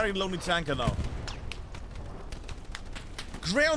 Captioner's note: gunshots